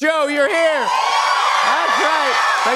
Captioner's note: cheers and applause